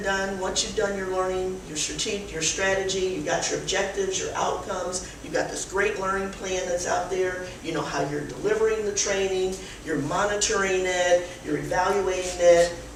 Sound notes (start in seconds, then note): none